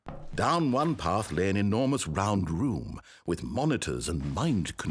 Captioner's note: none